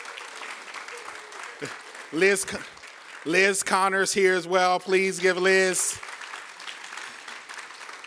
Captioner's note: applause